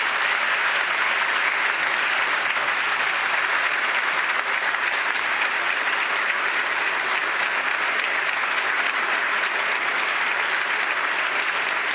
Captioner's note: applause